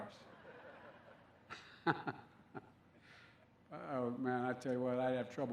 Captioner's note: laughter